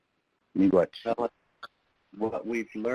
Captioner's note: speaking in foreign language